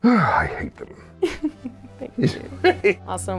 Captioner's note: laughing